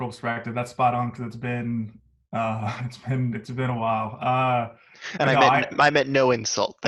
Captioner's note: laughs